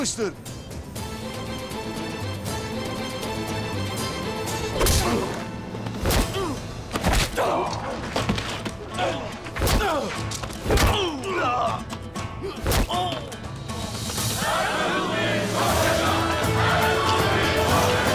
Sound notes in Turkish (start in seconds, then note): 6.0 Gerilim müziği; 6.0 İnliyorlar; 13.9 Hep bir ağızdan